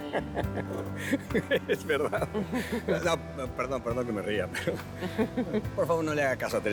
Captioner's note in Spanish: Risas